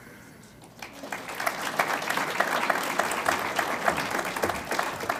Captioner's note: audience applauds